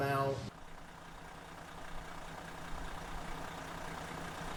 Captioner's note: car engine roaring